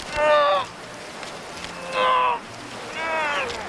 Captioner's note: groaning with effort